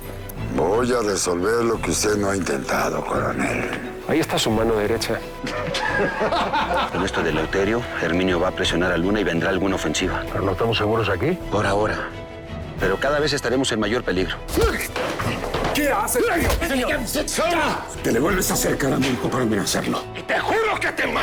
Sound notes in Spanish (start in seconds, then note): 5.4 Risas; 14.5 Golpes